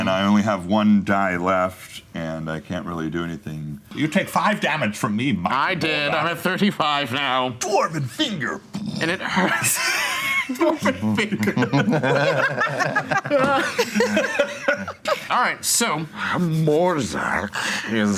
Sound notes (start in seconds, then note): 12.0 giggling